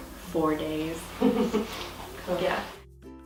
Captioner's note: laughs